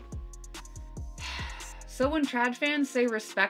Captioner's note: heavy sigh